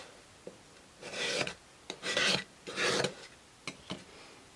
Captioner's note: scraping